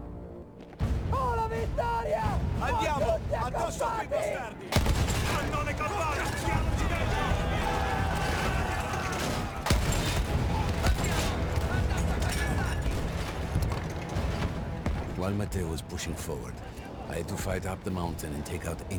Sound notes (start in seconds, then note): 0.8 speaking Italian